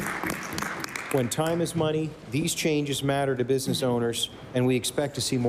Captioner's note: applause